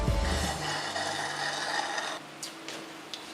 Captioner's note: slurping noises